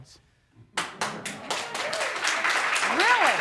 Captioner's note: applause